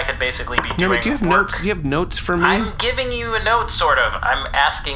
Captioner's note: stops angrily